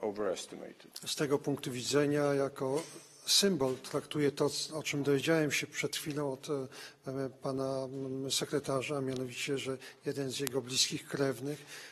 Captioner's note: speaking polish